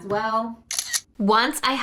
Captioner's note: camera clicking